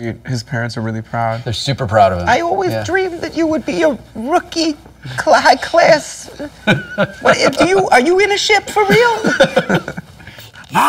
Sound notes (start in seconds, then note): 2.3 imitating elderly jewish woman